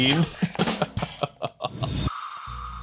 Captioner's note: laughs; drum sting